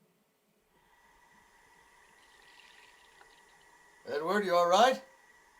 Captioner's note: faucet running